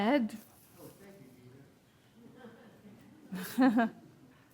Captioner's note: audience chuckles